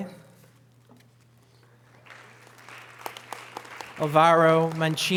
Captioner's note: audience applause